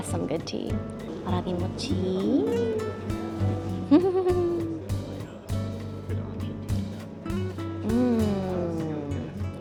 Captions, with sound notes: That's some good tea. Warabimochiiii (laughs) Mmm.